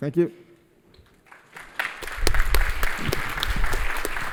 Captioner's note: applause